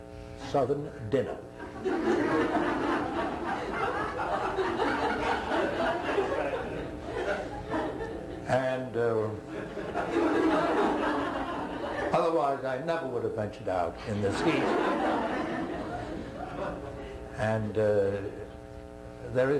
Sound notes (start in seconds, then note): 1.6 laughter